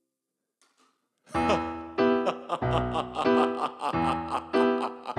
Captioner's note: laughs menacingly